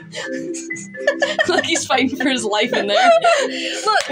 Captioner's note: quiet Laugh; snicker; laugh